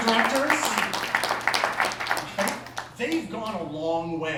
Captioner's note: applause